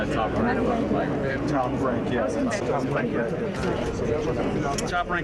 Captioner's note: crowd chattering